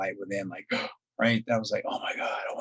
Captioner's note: gasping